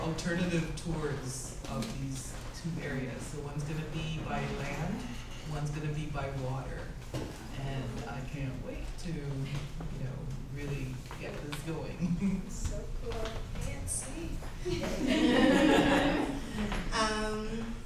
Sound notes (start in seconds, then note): 14.6 laughter